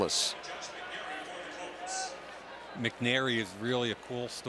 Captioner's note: pa announcement